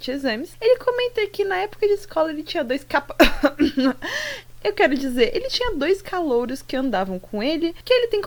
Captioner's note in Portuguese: tosse